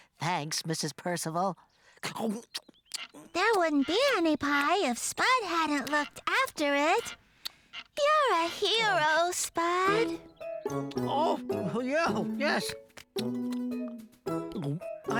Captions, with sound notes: THANKS, MRS. PERCIVAL. ( Chomp, Chomp, Chomp... ) THERE WOULDN'T BE ANY PIE IF SPUD HADN'T LOOKED AFTER IT. YOU'RE A HERO, SPUD! OH, YEAH...YES... ( Chomp, Chomp, Gulp! )